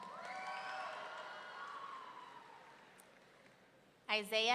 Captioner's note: audience cheering